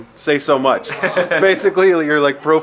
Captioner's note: man laughing